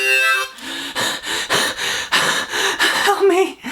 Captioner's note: heavy breathing